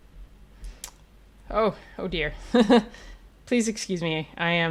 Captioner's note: laughs